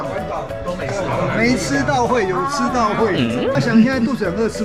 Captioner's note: crying in tears